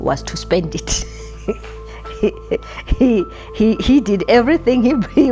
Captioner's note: chuckling